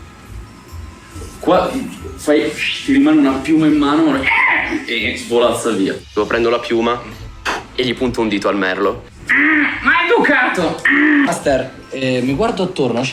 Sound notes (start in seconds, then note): 4.6 squawks; 7.4 blows; 9.3 squawking